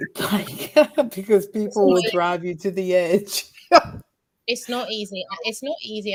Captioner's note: laughs